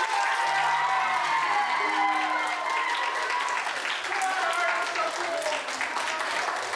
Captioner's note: applause